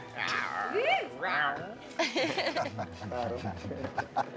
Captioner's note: laughter